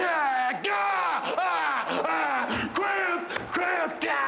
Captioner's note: Shawn groaning